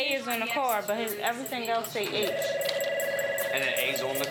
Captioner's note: phone ringing